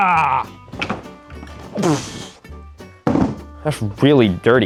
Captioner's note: wood clattering; sputtering